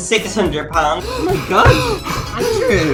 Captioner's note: panting